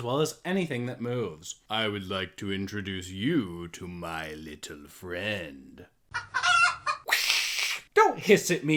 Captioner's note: clucks; hisses